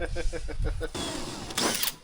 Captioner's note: laughing; metal clanking